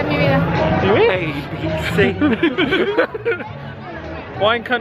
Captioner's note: pair laughing